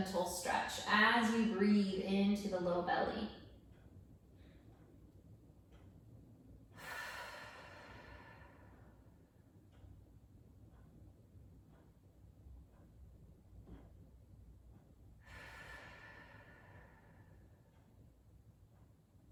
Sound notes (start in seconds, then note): 5.5 breathing